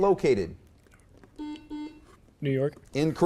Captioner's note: beep